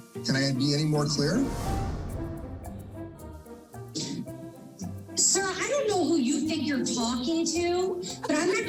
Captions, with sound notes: Can I be any more clear? [quirky music playing] [inhales sharply] Sir, I don't think you know who you're talking to,